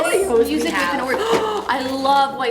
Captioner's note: gasps